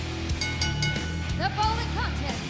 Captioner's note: bell ringing